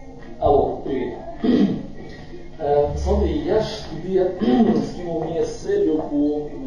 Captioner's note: speaks on the phone